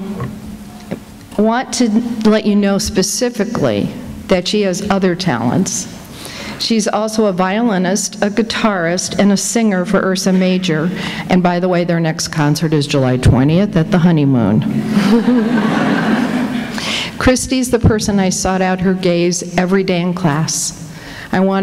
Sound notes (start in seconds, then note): 14.8 laughter